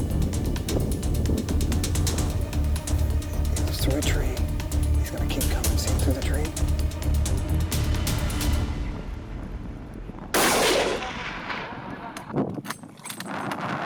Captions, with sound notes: He was through a tree. He's gonna keep coming. See him through the tree? (gunshot fired)